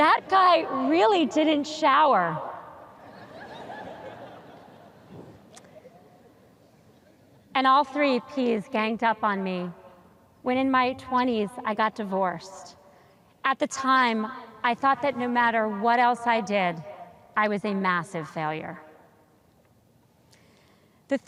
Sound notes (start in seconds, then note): 3.0 audience chuckles